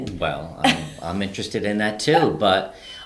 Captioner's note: laughing